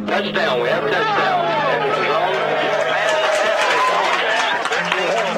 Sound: all cheering and applauding

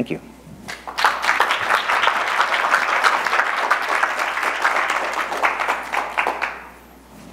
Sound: applause

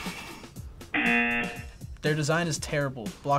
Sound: buzzer rings

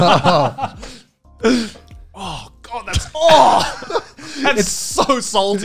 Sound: laughing; grunts

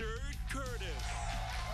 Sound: cheers and applause

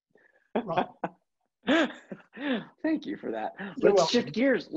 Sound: laugh

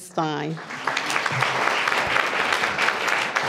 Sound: applause

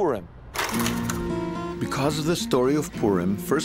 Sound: light music; lens clicks

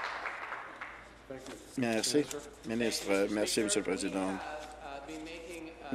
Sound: applause

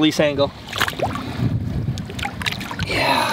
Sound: splashing

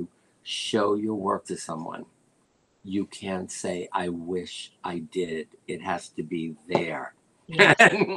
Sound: laughter

